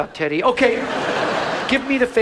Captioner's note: audience laughs